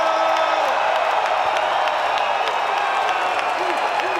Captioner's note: crowd cheering